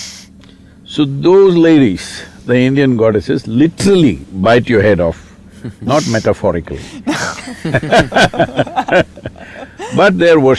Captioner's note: laughter